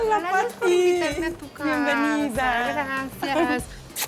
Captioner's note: speaking Spanish